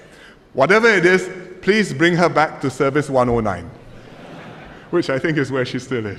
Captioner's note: laughter